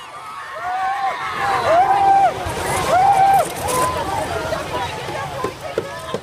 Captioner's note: all shouting